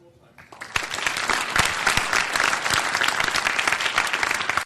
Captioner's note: audience applause